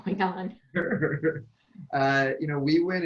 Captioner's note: laughs